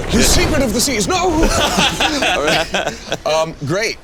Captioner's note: all laugh